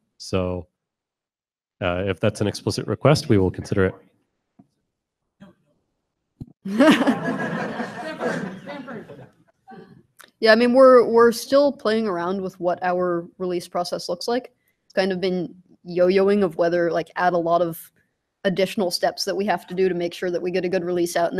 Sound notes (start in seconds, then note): 6.6 laughter